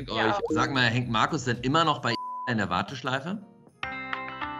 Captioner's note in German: Piep; Warteschleifenmusik